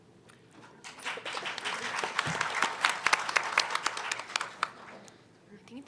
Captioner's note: applause